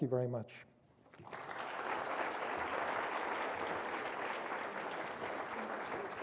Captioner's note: applause